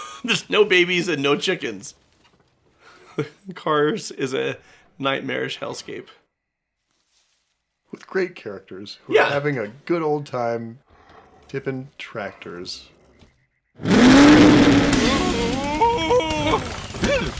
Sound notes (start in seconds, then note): 13.8 revs engine